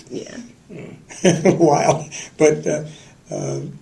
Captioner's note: laughter